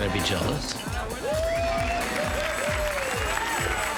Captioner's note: cheering